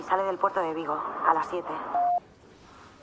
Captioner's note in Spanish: Pitido